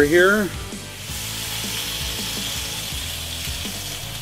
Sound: fish sizzles

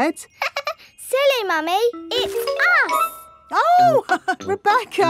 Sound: laughs; chuckles

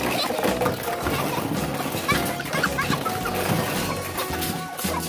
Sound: toys clatter; child laughing

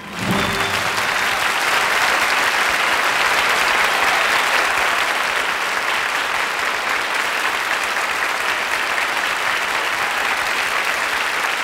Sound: audience applauding

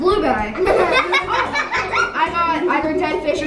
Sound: all laugh

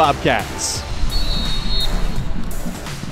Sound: whistle screeches

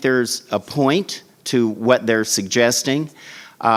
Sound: none

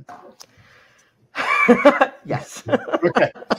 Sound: laughing

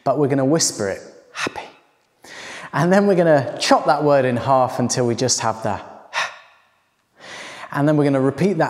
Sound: whispers

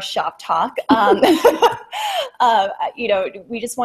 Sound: laughter

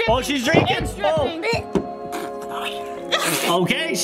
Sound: retching

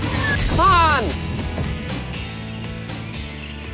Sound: none

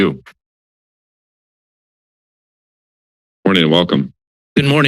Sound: silence

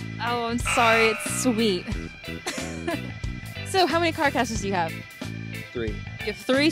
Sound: laughs

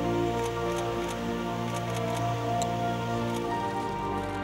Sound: camera clicking

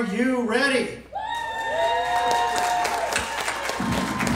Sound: crowd cheering and applauding

